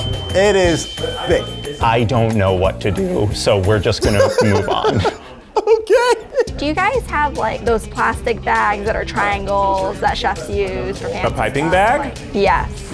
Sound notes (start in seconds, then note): 4.0 laughs